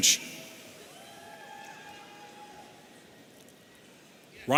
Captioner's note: audience cheering